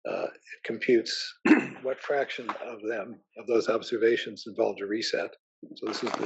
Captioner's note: cough